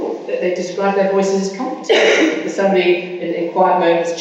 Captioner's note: coughing masks speaker